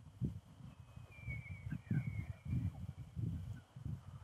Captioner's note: elk bugling